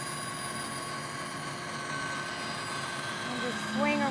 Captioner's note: sawing